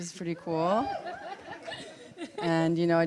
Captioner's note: cheering and laughter from the audience